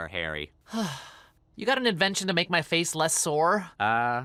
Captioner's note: sighs in relief